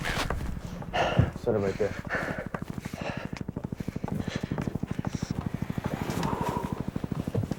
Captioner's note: helicopter whirring